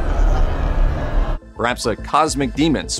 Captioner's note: crowd in awe, murmuring and pointing at the eclipse